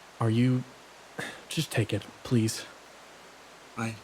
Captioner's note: sigh